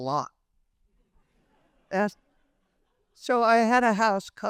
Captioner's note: people laughing